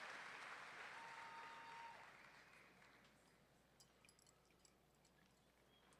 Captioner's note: audience member whooping